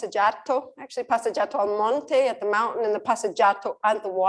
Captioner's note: non-english speech